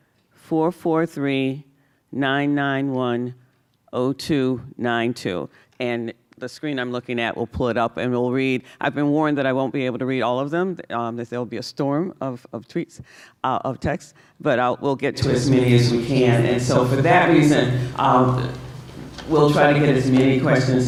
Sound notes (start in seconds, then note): none